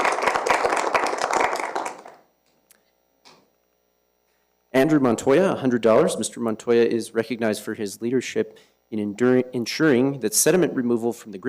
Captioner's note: applause